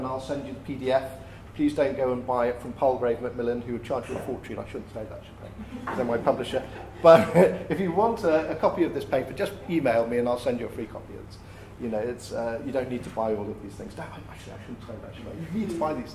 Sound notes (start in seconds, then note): 5.4 laughter; 15.5 laughter